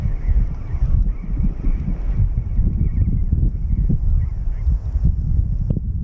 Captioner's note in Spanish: Sonido de bandada de loros Tricahue